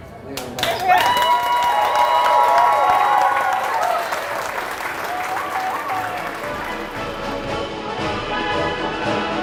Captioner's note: applause, cheers